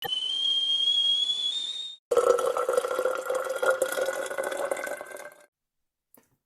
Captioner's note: sound of kettle boiling and water being poured